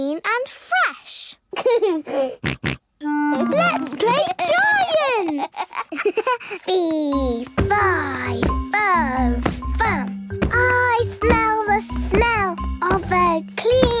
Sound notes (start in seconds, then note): 1.6 giggles, snorts; 5.0 giggles